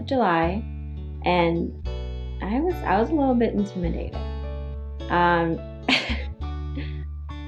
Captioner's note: laughs